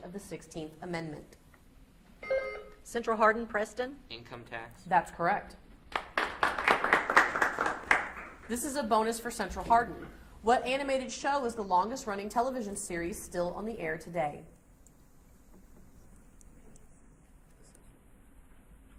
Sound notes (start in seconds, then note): 2.2 beep buzzing; 5.9 audience applauds